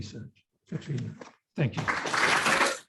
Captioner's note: audience clapping